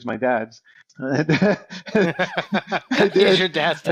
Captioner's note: hosts laugh